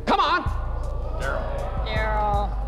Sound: oohing

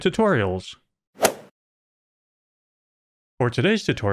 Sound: golf ball hit sound

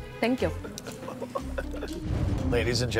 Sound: laughing

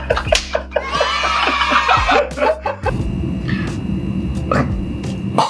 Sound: laughing; cheering

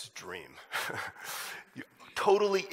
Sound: chuckles

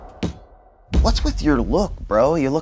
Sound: feet hit table

